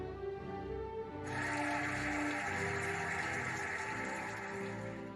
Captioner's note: cheering and applauding